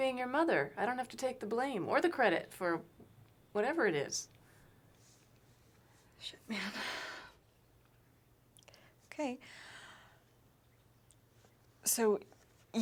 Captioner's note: quiet